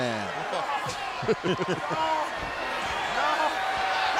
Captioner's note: Hogan and Nash laugh